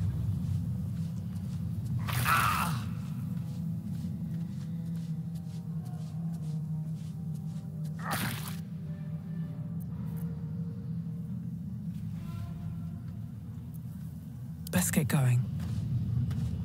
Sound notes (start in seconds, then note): 0.0 footsteps, somber ambient music; 0.0 squelching, crunching sound; 0.3 footsteps, somber ambient music; 4.8 footsteps, somber ambient music; 7.8 squelching, crunching sound